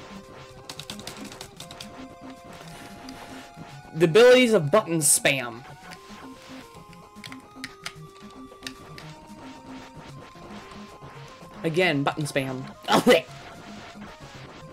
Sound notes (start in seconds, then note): 0.6 button mashing